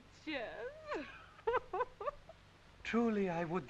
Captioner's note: Audrey laughs